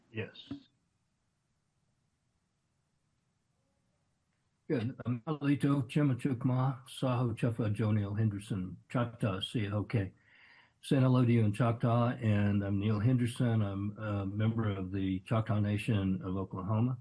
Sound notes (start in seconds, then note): 9.3 foreign language